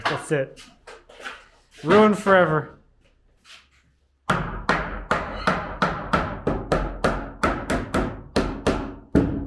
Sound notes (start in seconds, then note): 4.2 hammer banging